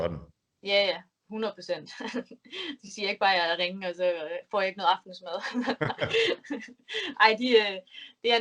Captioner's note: laughs; both laugh